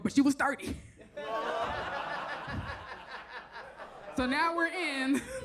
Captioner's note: audience laughs